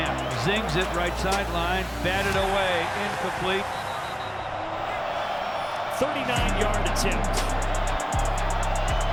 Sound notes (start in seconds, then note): 3.6 whistle blowing